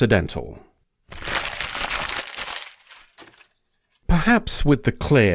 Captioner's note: paper being crumpled